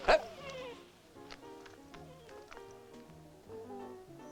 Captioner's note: dog whining